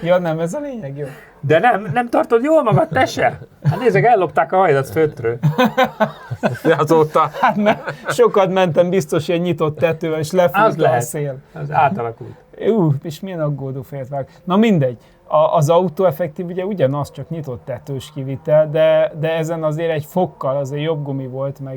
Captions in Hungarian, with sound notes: Ja, nem ez a lényeg. Jó, de nem nem tartod jól magad, te se? Hát nézd meg, ellopták a hajlat fötről [nevetés] azóta. Hát mert sokat mentem biztos, hogy ilyen nyitott tetővel és lefúz a szél. Át az átalakult. Ú, és milyen aggódó félt vág. Na mindegy. A az autoffektív ugye ugyanaz, csak nyitott tetős kivitel, de de ezen azért egy fokkal azért jobb gumi volt,